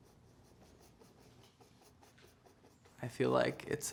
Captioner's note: paint brush stroking